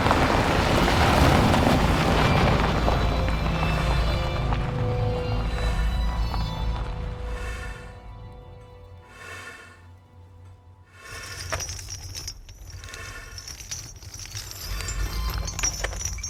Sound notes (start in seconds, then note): 9.9 person breathing heavily; 13.4 chains rattling